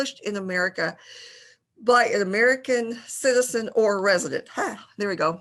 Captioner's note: gasps